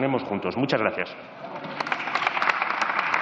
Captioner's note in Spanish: Aplausos